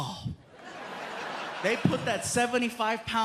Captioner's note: laughter